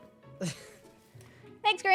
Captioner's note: laughs